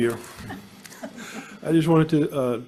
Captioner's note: audience chuckles